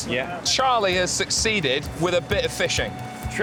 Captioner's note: fisherman speaks in spanish